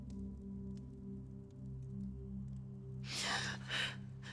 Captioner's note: gasping